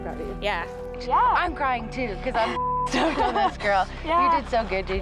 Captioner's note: beep